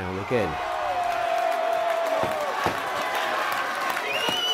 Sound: crowd cheering and clapping; whistling

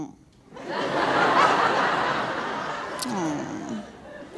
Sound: audience laughing

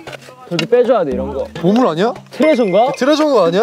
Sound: suddenly, thud

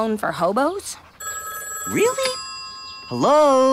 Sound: phone ringing

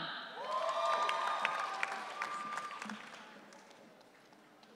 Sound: audience cheering

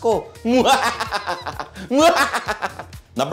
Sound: laughing menacingly

